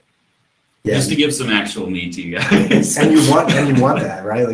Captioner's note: laughs